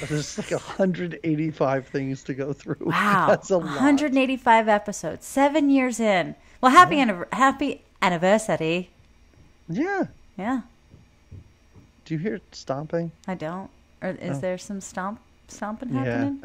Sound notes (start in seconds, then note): 3.8 laughs; 6.9 in Irish brogue